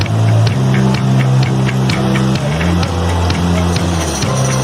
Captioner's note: water rushing